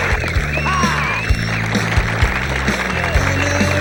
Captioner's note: crowd cheers and applauds; shouts